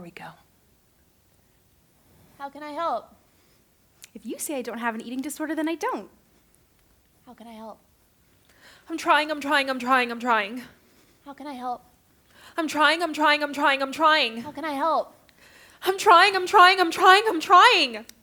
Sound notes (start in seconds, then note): none